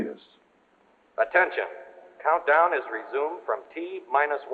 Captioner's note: man on PA